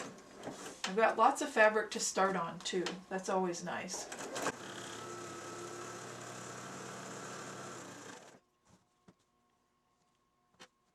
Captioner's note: sound of sewing machine